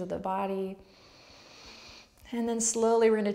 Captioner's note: strong inward breath